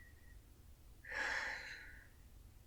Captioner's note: sigh